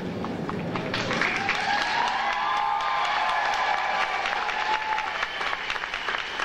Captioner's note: audience applauding and cheering